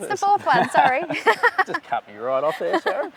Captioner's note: laughing